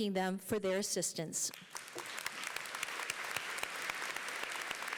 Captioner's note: applause